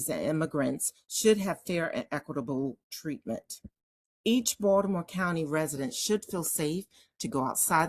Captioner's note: none